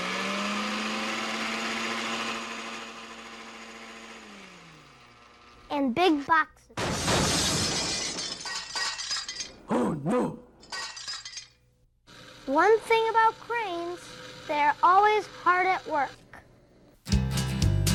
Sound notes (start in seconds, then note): 6.8 crashing; 9.9 voiceover